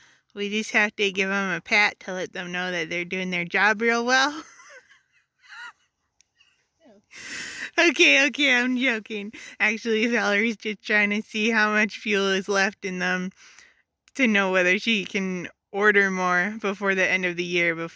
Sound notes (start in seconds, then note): 4.3 laughter